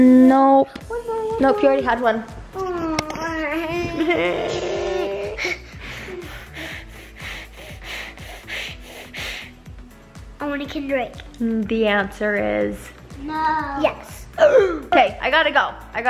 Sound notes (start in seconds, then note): 3.0 whining; 5.2 heavy breathing